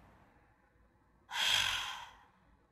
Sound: sigh

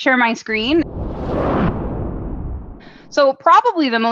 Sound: logo whooshes

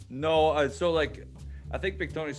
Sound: none

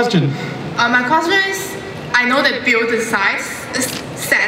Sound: voiceover

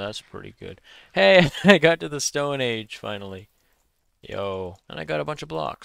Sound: laughs

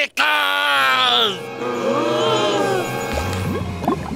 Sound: gasping

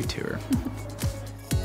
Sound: chuckles

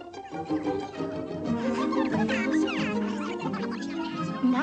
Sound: mice chattering

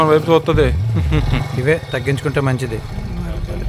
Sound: Balu laughing

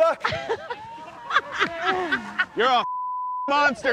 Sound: laughing; beep

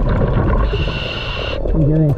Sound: breaths in

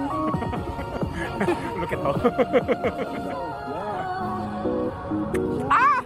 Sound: laughing in front hahaha

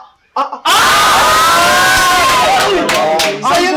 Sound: cheers

